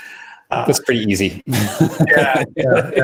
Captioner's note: chuckling